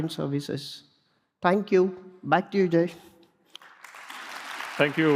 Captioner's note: applause